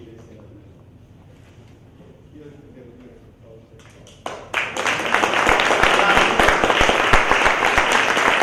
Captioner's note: applause